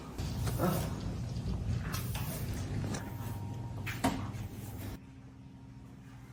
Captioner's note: sweeping